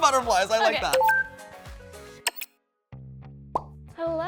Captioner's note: electronic clicking